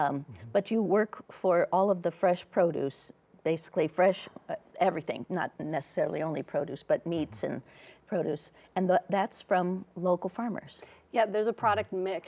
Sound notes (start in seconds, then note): none